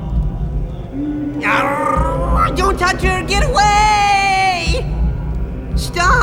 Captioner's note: growls